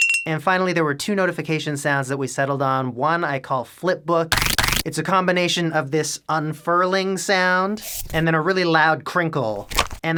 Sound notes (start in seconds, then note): 7.6 unfurling sound; 9.6 crinkle